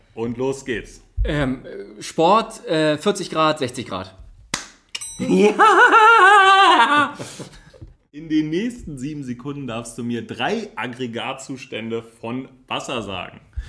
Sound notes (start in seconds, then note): 4.5 claps; 5.3 Golum cheering noise